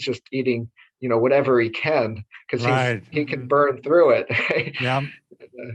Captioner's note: chuckles